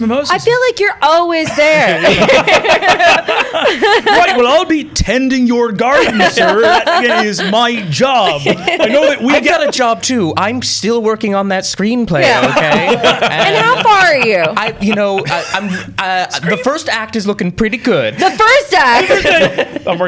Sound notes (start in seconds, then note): 1.5 laughter